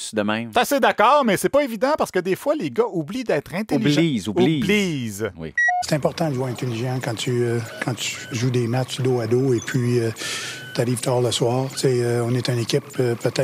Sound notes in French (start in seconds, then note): 5.4 voix de Claude Julien